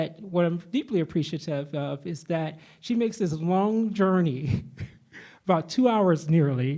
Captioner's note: laughs